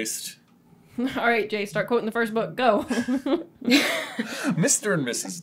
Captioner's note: laughter